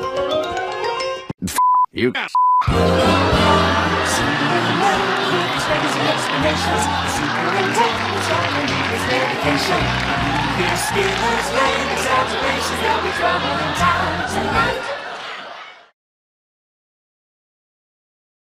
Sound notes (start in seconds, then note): 3.4 applause